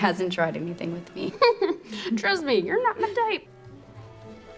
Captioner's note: chuckles